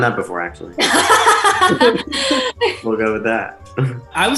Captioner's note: group laughing; chuckles